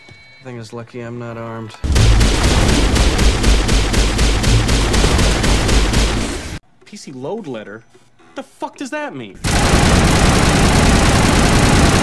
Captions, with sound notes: Thing is lucky I'm not armed. [incessant gunfire] "PC LOAD LETTER?" What the fuck does that mean? [even more gunfire]